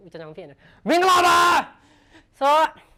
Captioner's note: shouts